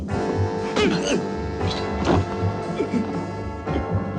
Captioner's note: gasping